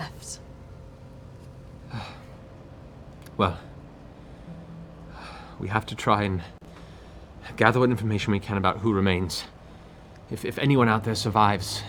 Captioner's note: sighs